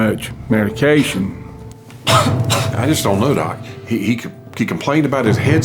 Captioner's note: coughs